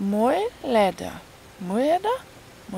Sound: crap pronounciation

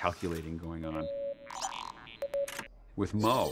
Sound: low beeping

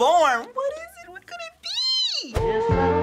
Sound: squeakily

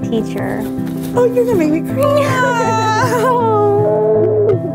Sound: both laugh

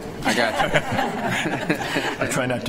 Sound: laughter

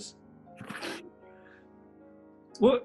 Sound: sniggering

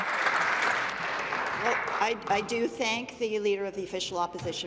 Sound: applause

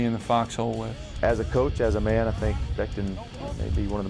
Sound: voiceover

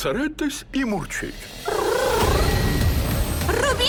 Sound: kittens purring

